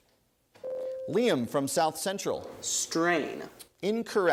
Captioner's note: ding